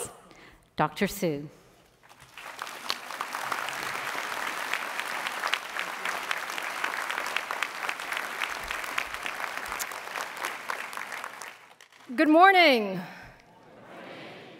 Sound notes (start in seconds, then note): 2.0 applause